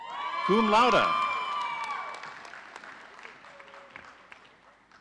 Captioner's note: audience cheering